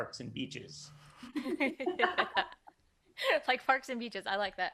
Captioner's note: all laughing